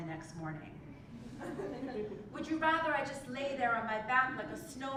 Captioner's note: laugh